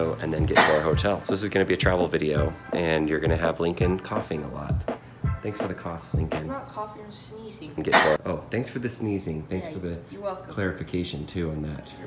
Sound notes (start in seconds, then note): 7.9 cough